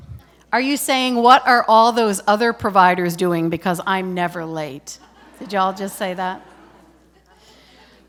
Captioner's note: laughter